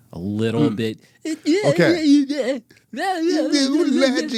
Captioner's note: imitates guitar